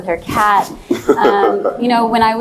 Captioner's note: laughs